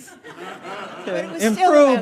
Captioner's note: audience laughing